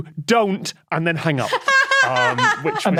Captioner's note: laughs heartily